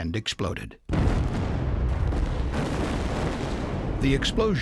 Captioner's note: sound of explosion